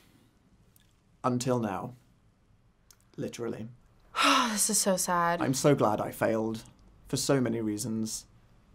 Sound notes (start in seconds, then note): 4.1 sighs